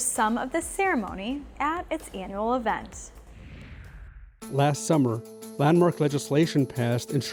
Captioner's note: voiceover